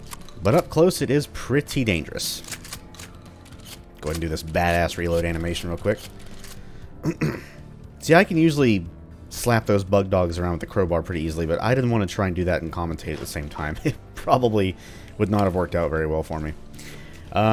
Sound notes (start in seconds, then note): 7.0 clears throat; 13.7 chuckles